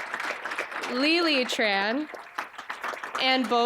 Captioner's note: applause